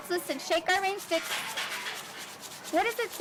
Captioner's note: brush-like noise